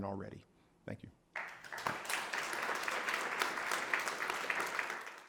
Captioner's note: audience applauding